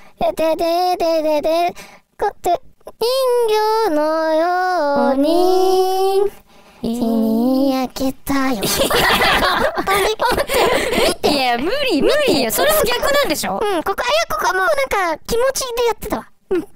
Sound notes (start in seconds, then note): 8.6 laughing